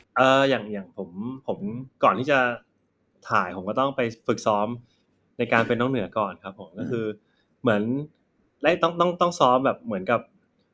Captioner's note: answering in Thai